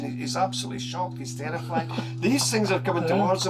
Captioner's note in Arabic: يضحك